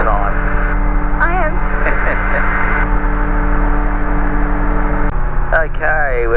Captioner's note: laugher